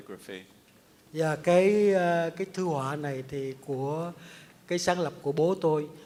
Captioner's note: speaks in Vietnamese